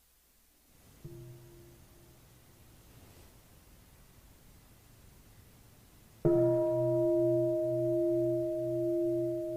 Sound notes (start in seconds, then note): 1.1 bell